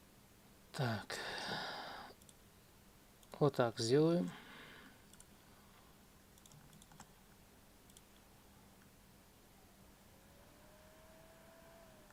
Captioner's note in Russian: вздыхает; тяжело вздыхает